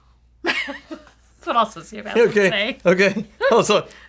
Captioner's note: laughing